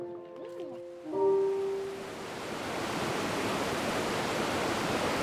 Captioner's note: water rushing